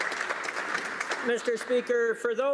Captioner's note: some Applause